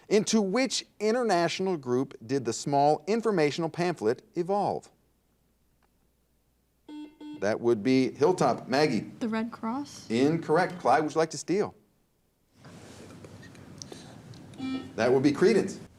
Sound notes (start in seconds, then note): 6.9 buzzer dings; 14.6 buzzer dings